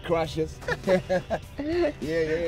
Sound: laughing

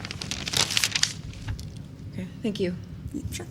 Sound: papers rustling

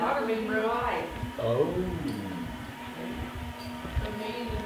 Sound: whirring noises

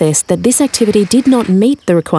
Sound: roller door opening

